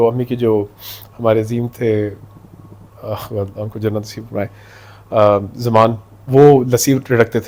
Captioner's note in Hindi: नाक से की जाने वाली आवाज़